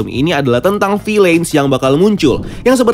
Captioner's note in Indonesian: suara transisi